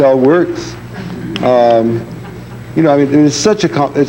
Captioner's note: audience laughing